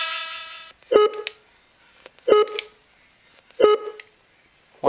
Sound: beeps

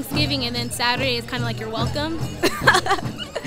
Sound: laugh

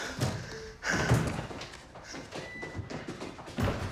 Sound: heavy breathing; door opening; door closing

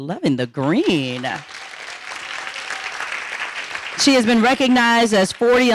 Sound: audience applauding

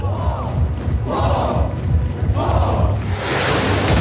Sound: militant chanting

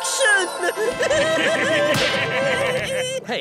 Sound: laughing

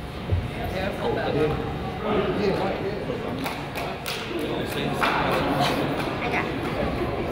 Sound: person claps

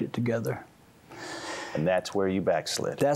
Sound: inhales deeply

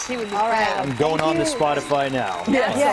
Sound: cheers and applause

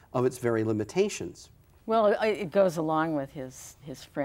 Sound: none

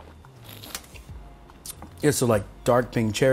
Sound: slurps

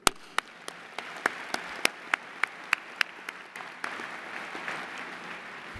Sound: applause

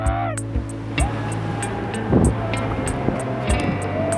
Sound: cheering

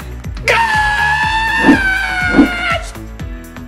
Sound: screams

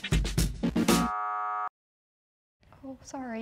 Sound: buzzer sounding

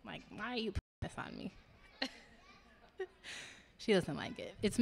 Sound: laughing

